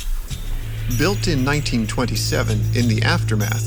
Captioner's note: voiceover